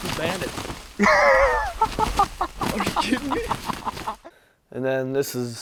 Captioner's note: laughing loudly